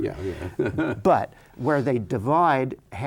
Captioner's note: chuckles